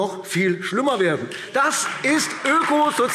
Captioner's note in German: Beifall AfD